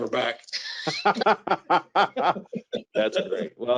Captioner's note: laughs